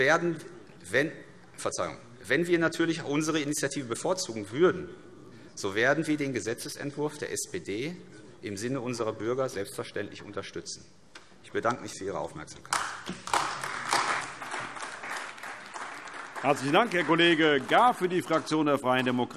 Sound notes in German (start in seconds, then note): 12.7 Beifall AfD